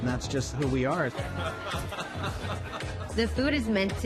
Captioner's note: laughs